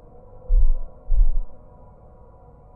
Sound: thud, thud

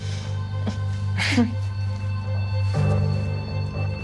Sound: Eva chuckles

